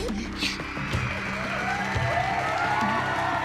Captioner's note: cheering